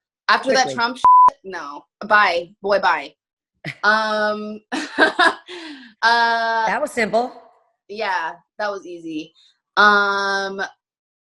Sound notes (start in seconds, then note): 1.0 beep; 4.8 laughing